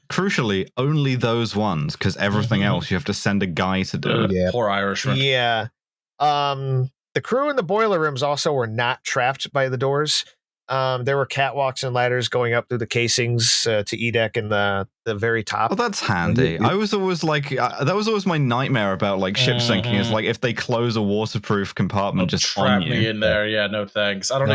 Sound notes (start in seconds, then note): 4.1 laughs briefly